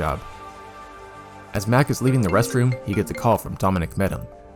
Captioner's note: phone rings